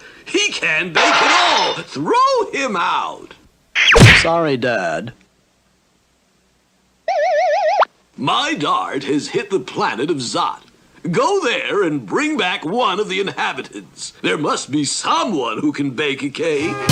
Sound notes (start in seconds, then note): 3.8 smack!